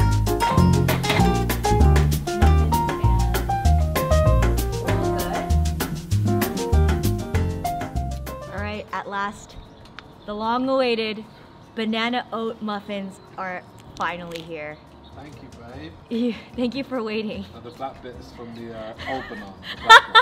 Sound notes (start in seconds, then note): 16.1 chuckles